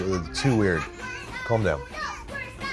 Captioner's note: children laugh and chant